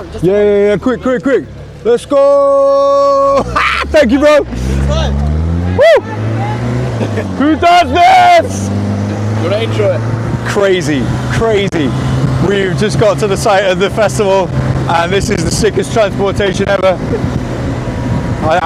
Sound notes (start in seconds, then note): 3.1 laughs